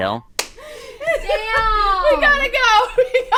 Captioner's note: all laugh